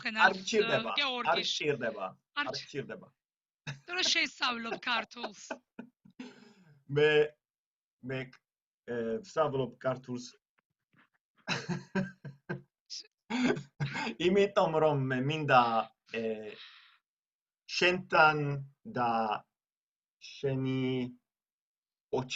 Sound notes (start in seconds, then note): 0.9 in Georgian; 8.2 laughter